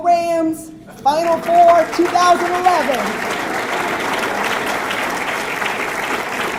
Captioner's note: audience clapping